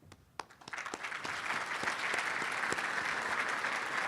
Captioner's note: applauding